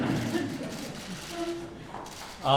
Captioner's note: laughter